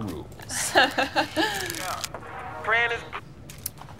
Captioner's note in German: lacht